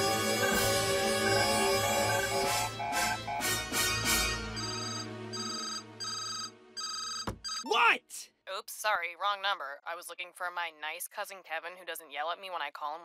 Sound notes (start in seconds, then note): 2.3 alarm blaring; 4.5 cell phone ringing